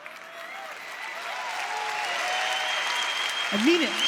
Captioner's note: audience applause